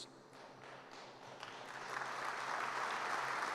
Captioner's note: applause